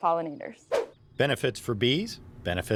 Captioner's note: air whooshes